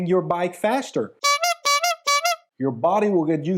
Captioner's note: horn beeping